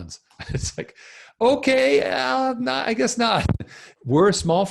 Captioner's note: laughs